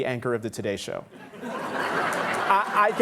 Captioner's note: audience laughing